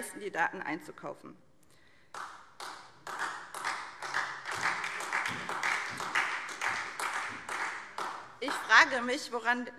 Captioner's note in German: Beifall SPD